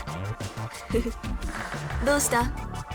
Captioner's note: chuckle